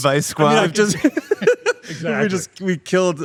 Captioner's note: everyone laughing